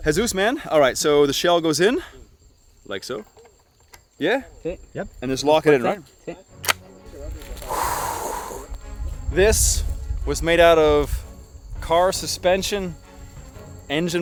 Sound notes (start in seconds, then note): 7.6 exhaling deeply